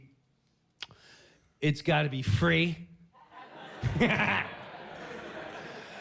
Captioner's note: laughs